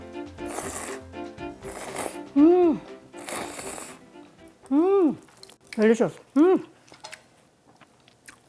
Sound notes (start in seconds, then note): 0.7 slurping noodles